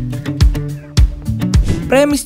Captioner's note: transition sound